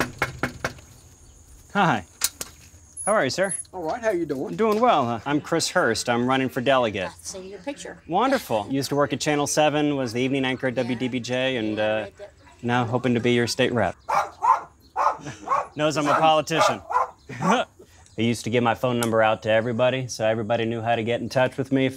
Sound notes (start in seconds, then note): 0.0 knocking on door; 14.0 dog barking; 17.0 laughing